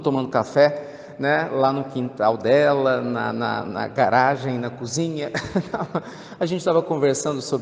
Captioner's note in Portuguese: risos